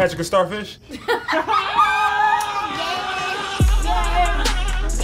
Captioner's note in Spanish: risas, gritos